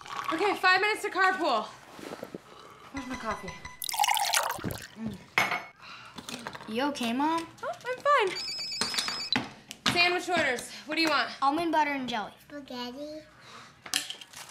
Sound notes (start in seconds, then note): 3.8 liquid pouring; 8.4 phone ringing